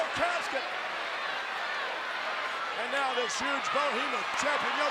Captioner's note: applause